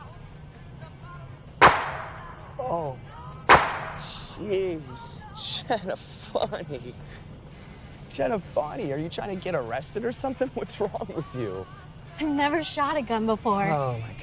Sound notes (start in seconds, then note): 1.6 gunshot blasting